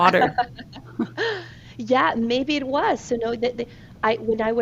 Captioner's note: laughs